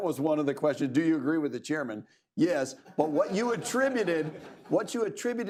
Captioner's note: laughter